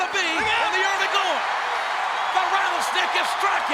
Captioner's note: audience cheers